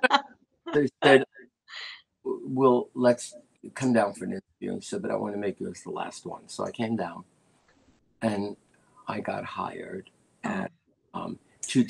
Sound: laughter

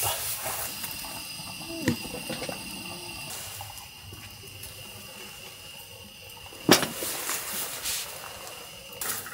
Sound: Pyeongbaek steaming

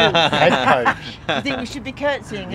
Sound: laughter

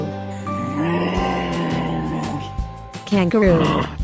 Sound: kangaroo sound

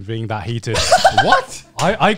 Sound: laughs

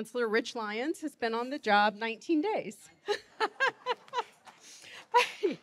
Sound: laughing

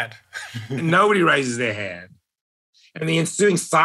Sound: laugh

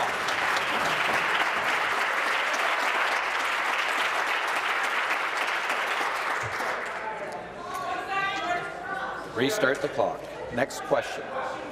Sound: applause

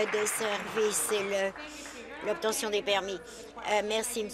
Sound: applause

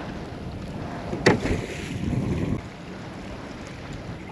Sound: splashing

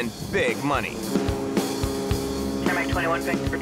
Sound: ship honks

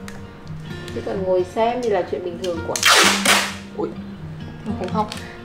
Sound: ft the tape sound

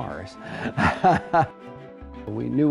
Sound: laughs

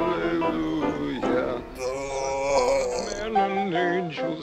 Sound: groans

